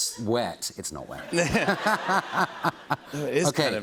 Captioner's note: laughter